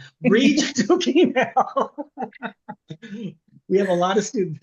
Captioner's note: laughs